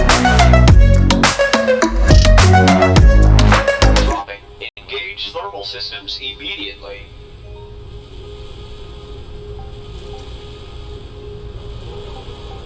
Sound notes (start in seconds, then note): 7.0 alarms; 8.2 alarms & Bells